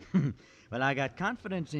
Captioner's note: chuckles